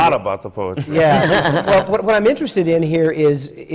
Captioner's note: laughs